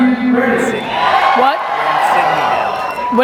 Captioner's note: audience clapping